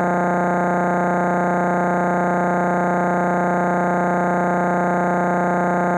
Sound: electronic buzzing continues

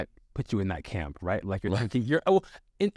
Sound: Sasha laughs

